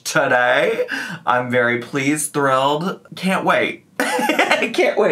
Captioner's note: laughs